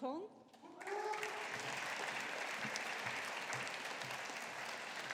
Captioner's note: audience applauding